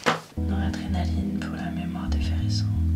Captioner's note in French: chuchote